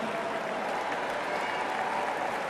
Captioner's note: cheers and applause